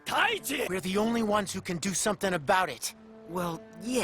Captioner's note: english Dialogue